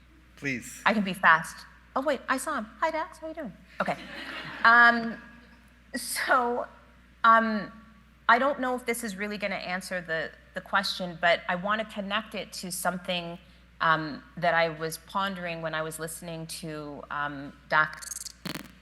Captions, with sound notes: - Please. - I can be fast. Oh, wait, I saw him. Hi, Dax, how you doing? Okay. (audience laughing) So I don't know if this is really gonna answer the question, but I wanna connect it to something that I was pondering when I was listening to Dax.